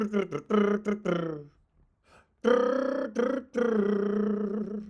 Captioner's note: imitates drumming